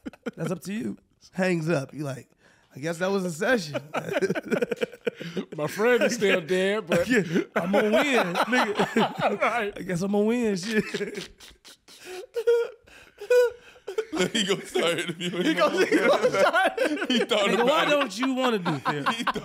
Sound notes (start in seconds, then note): 3.5 laughing; 12.0 laughing; 14.3 group laughing